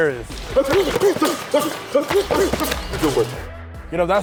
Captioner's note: grunting; pads thudding